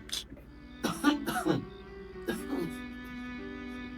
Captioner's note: severely coughs